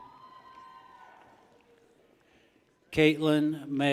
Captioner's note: people cheer